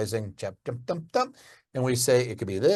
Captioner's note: speaking gibberish